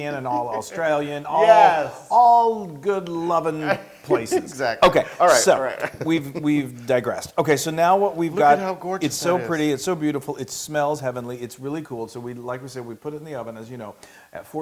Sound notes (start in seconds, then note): 0.0 laugh; 4.0 laugh